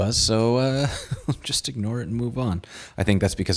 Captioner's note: laughs